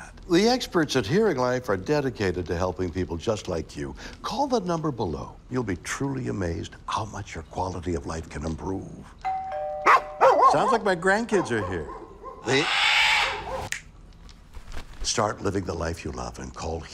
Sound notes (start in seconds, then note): 9.2 doorbell; 9.8 dog barks; 11.2 dog barking; 11.3 parrot squawking